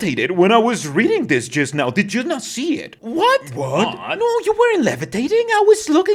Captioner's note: confused